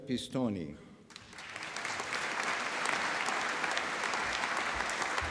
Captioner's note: applause